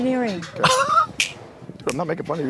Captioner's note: Katya rasps and snaps